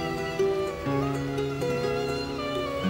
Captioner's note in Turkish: Martı sesleri